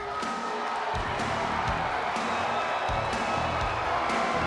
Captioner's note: crowd cheering